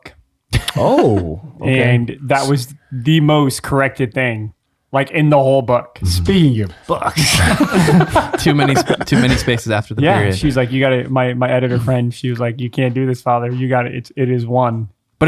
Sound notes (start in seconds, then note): 6.8 friars laugh